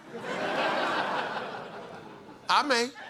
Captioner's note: laughter